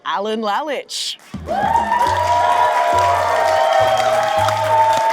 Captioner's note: audience cheering